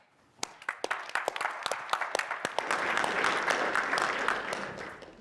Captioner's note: applause